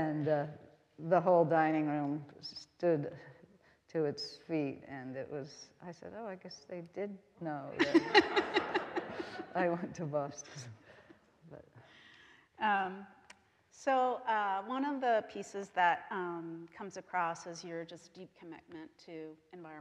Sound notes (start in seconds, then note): 7.8 all laughing